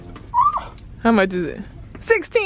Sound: grammy gasps

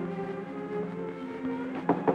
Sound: knocking

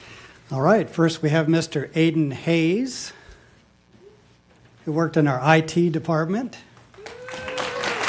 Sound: applause

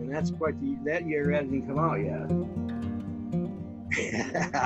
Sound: laughing

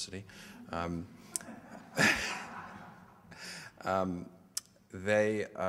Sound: audience laughter

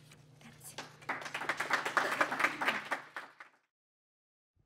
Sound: applause

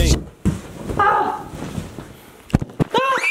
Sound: screams; yells

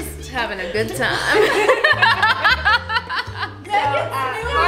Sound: laughing

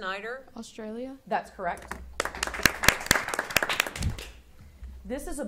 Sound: audience applauding

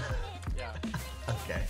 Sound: laughing

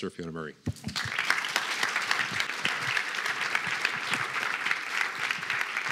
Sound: applause

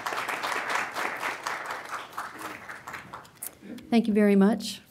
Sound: applause

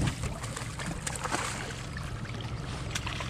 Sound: rod whipping; fish splashing

